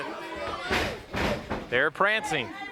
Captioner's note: blows thudding